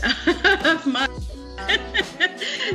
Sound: laughing

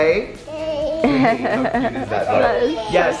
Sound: laughs

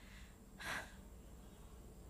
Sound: exhales

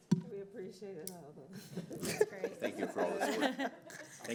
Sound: laughter

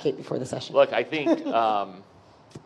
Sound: laughing

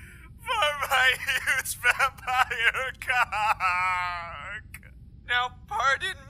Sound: sobbing

